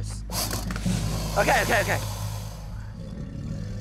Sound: growls

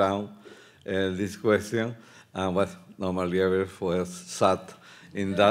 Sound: speaking Spanish; speaking Spanish

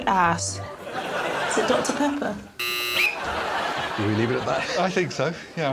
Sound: blows whistle

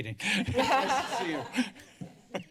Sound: laughter

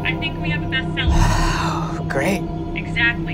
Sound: Andrew gasps

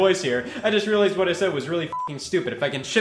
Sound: beep

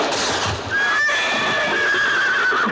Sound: horse whinnies

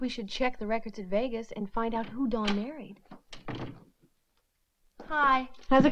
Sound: door clattering

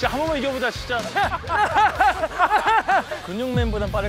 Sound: laughing

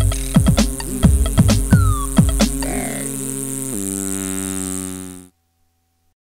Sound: rotors spinning

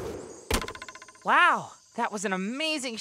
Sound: thud

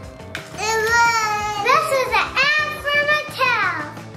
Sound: child's Voice

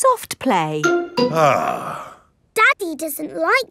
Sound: sighs

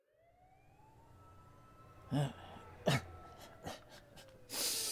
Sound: grunting

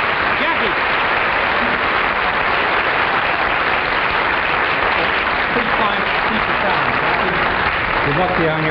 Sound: audience applauds

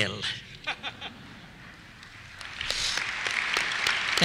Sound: applause; laughter

